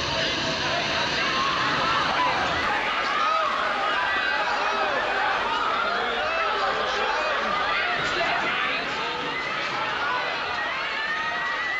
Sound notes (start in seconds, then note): 0.0 loud hiss of rushing steam; 3.5 loud din of soldiers and people yelling; 11.6 loud yelling